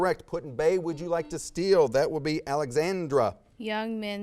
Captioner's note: buzzer sounds